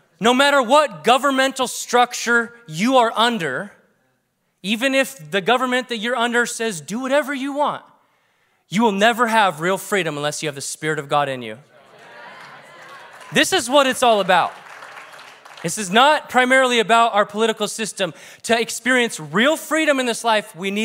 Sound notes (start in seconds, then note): 11.8 congregation agrees